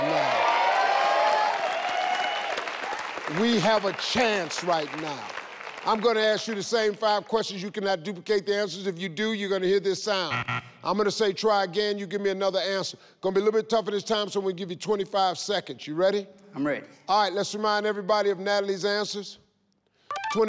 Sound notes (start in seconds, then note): 0.0 audience cheers; 10.3 scoreboard buzzes